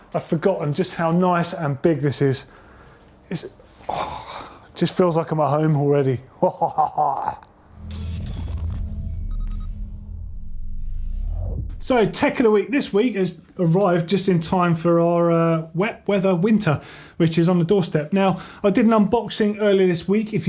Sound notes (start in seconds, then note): 3.5 groans; 6.4 chuckles; 7.7 electronic beeping